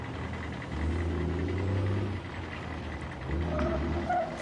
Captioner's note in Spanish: Sonido del camión